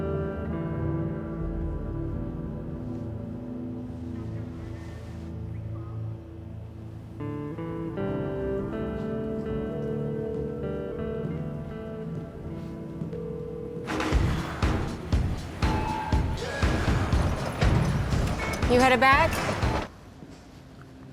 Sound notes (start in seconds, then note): 10.0 phone ringing; 13.8 thumping music